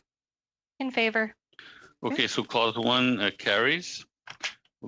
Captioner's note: speaking French